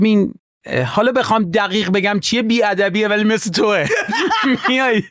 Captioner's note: laughs